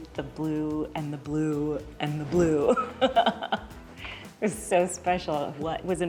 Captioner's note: laughs